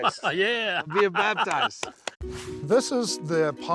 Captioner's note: laughing